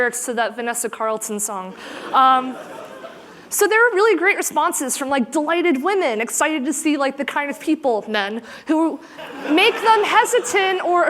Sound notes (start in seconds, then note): 1.8 laughter